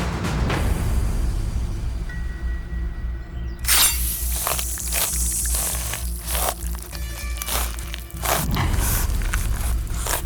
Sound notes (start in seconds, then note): 3.6 flesh squelching; 3.7 blade chimes